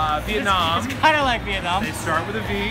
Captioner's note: laughing